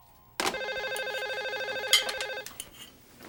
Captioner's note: phone ringing